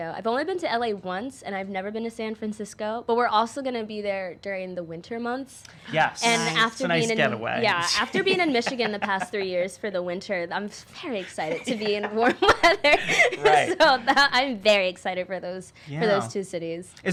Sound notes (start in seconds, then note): 11.1 laughs